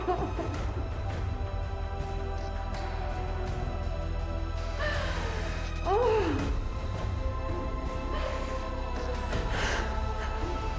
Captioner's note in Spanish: Sollozos